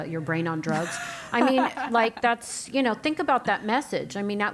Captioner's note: laugh